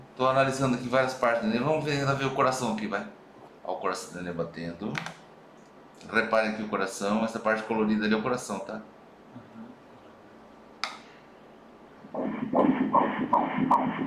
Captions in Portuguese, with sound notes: Estou analisando aqui várias partes do neném. Vamos tentar ouvir o coração. O coração do neném batendo... Reparem aqui o coração. Essa parte colorida é o coração. *murmúrio de afirmação* *batidas do coração*